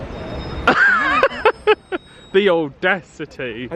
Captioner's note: laughing